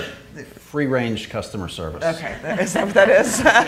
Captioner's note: audience laughing